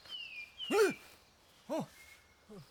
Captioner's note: startles again